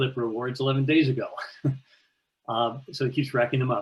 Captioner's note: chuckles